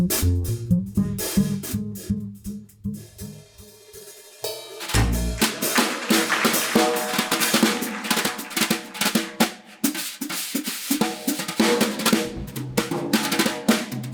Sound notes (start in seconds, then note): 4.9 applause; 6.6 drum solo begins